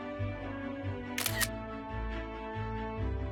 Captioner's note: camera shutter sound